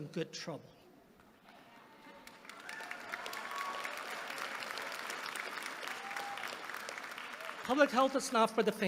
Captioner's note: applause